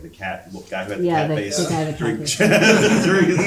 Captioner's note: audience laughing